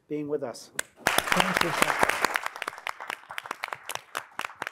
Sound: audience applauds

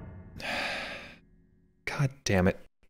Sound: sighs

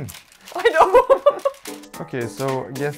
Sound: laughs

